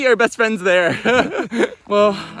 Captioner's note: laughing